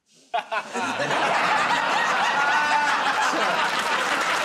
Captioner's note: laughter; laughs